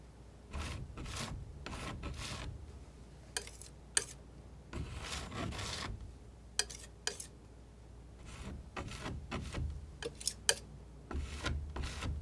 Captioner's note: scratching